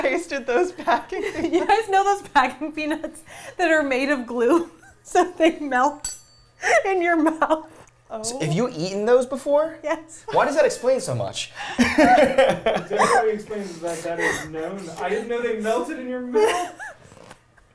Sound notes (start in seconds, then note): 11.7 all laughing